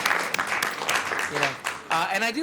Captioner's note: applause